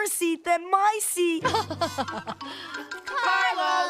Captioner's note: laughs